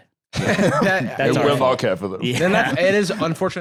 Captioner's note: laughs